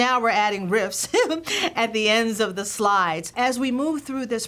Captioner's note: laughter